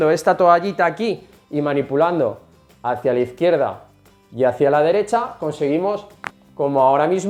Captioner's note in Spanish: crack